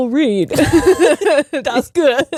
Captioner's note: both laughing